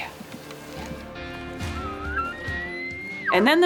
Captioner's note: upbeat music; elk calling